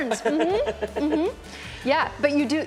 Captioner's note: laughter